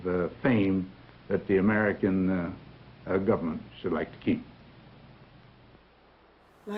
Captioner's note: none